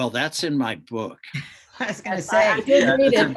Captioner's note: chuckles